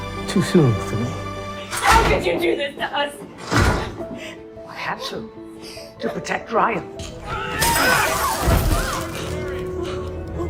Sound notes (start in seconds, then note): 1.9 shouting; 7.6 glass breaks